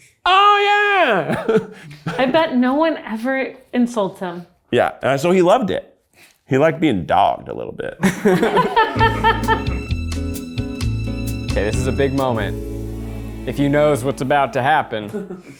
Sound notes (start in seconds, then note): 1.2 chuckles; 8.0 people laugh; 8.6 upbeat music